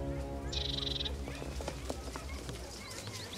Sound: birds calling; dogs barking

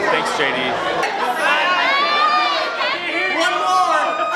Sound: crowd

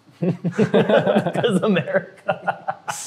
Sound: laughing

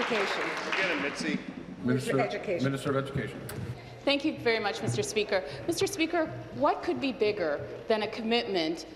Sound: applause

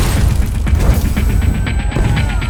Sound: sirens wailing

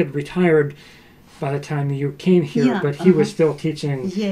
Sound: laughs

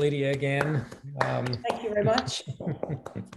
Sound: applause

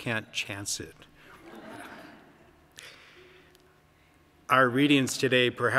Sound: congregation laughing

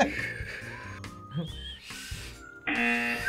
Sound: laughs; whistles weakly; buzzer

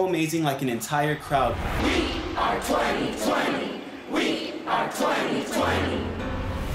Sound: crowd cheering

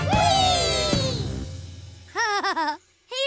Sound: laughing

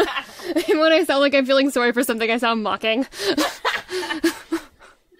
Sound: giggling; laughing; laughter

